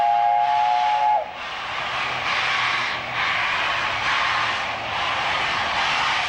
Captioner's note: train horn